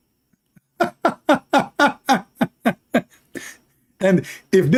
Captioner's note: Ketawa